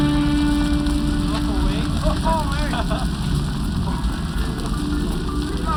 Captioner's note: kids laugh